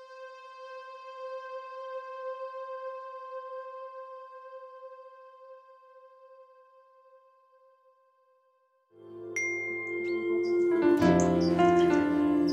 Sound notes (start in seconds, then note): 9.2 mobile pings; 10.7 instrumental music